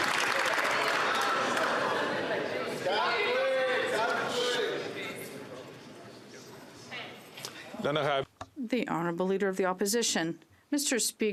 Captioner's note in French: applaudissements